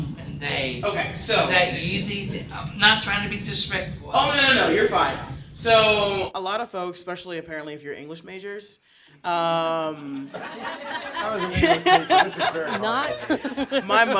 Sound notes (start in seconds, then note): 10.3 audience chuckling